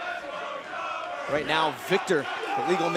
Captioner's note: fans chanting